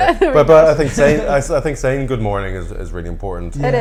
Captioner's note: laughs